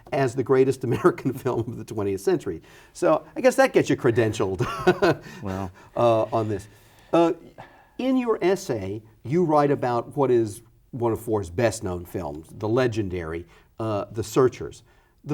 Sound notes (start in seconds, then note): 1.1 chuckles; 4.6 laughs